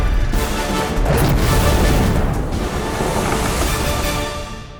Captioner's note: fire raging